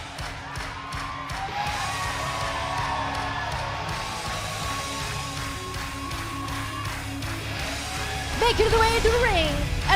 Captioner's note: cheers and applause